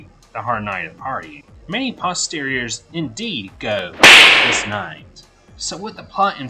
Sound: smack sound

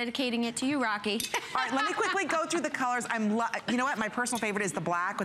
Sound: laughter

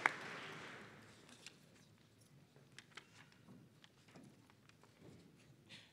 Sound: applause

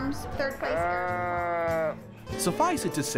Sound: sheep bleating

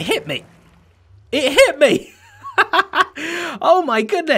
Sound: laughs

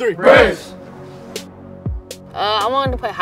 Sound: team cheering

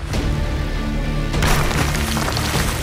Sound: tense music plays; thud

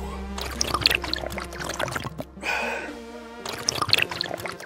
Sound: slurping

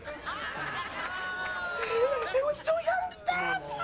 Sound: studio audience laughing

